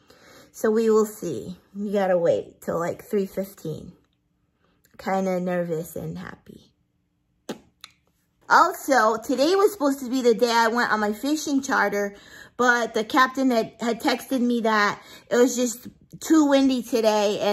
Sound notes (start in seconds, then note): none